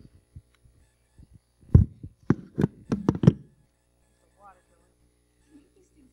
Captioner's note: mic noise